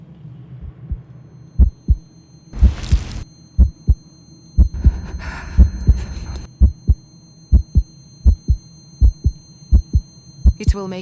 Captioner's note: heartbeat